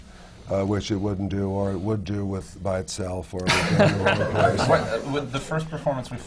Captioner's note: laughter